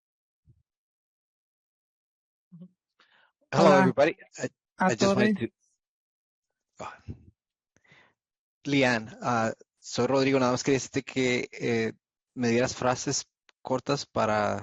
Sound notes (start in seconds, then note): 8.2 speaking Spanish